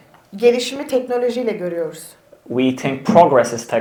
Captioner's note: speaks in Turkish